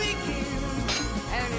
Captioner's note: metal clanging